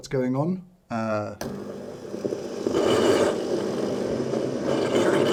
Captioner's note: machine gurgles & releases steam